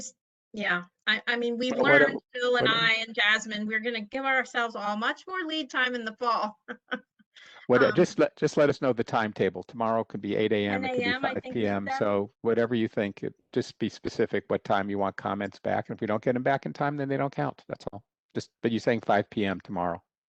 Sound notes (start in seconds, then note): 6.6 laughter